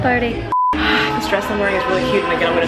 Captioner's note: beep; sighs